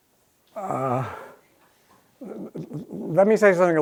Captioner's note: laughter